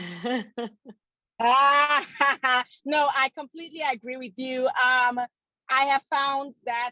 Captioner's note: laughs